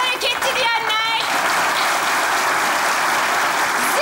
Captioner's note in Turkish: Alkış sesleri